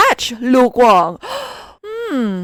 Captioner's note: gasp